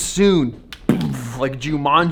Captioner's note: explosion sound